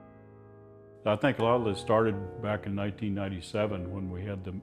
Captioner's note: voiceover